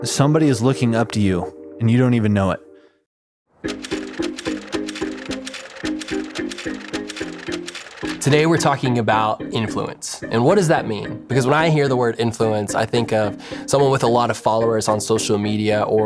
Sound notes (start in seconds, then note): 3.6 graphics clicking; 4.1 electronic music